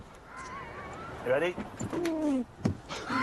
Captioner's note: scraping; both giggle uncontrollably